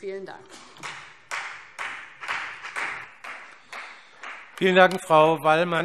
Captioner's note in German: Vereinzelter Beifall CDU und BÜNDNIS 90/DIE GRÜNEN